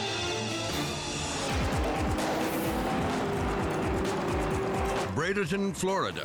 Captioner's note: upbeat music; cars whooshing